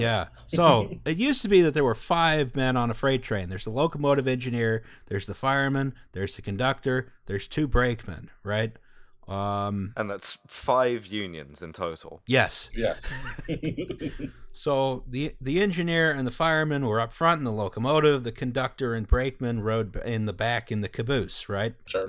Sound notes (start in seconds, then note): 13.0 laughter